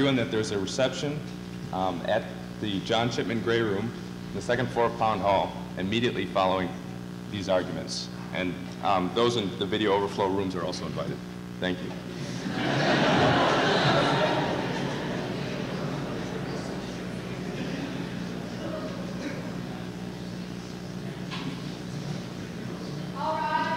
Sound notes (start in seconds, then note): 12.2 laughter